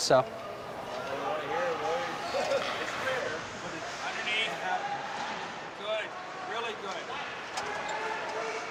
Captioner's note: sounds of people playing hockey